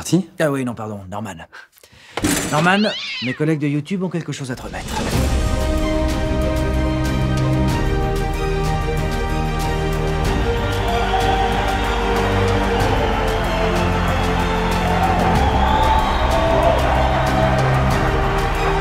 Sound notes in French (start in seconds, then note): 2.5 miaulements; 5.0 musique épique